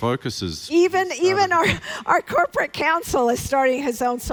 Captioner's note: speaks faintly